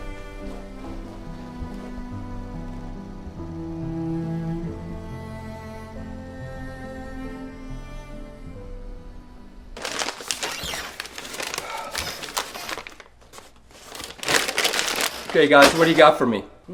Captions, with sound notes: (bag crinkling) (chair squeaking) - Okay, guys, what do you got for me?